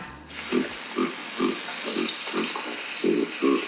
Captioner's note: giraffe grunts